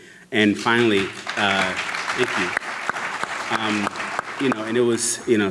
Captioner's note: audience clapping